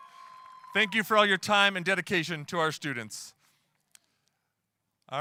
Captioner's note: applause